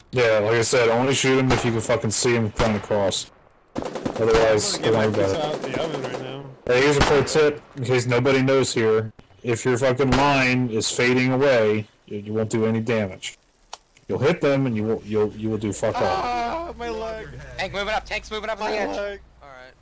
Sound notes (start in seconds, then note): 3.7 ratatatatata; 3.8 pow; 10.0 firing